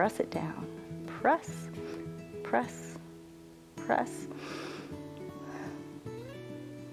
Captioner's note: inhales and exhales